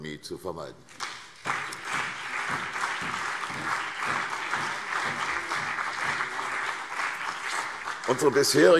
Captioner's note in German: Beifall CDU und BÜNDNIS 90/DIE GRÜNEN